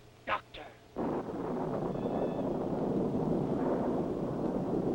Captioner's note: thunder rumbles